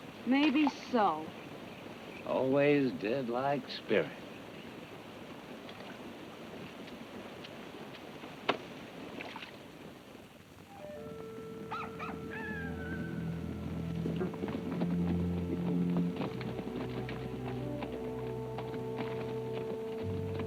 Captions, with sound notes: - Maybe so. - Always did like spirit. (cock crows) (foreboding music)